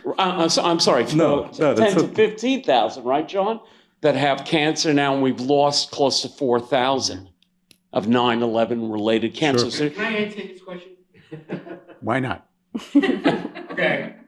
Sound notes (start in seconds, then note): 7.3 off mic